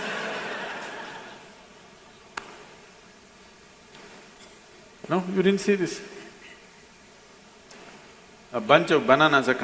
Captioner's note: laughter